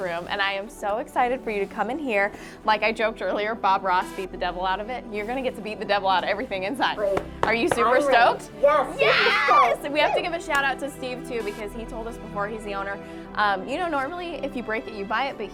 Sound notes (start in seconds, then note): 7.1 claps